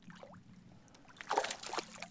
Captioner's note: splash